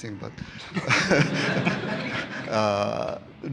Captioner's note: laughter